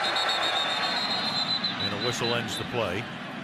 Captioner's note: whistle blows